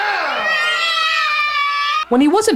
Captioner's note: kids crying